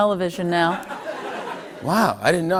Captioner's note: laughter